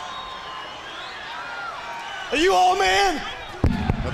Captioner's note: crowd cheering